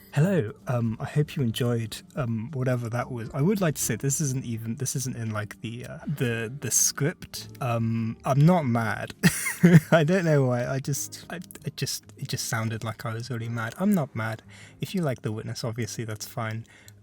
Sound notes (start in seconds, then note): 9.2 laughs